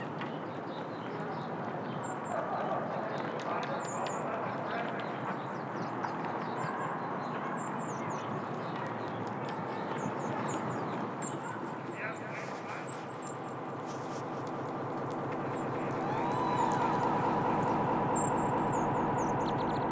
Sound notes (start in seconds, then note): 11.3 a man's muffled, reverberated voice and a woman's distant cheer